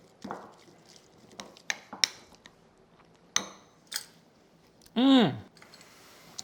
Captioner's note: mixture sloshes; spoon clinks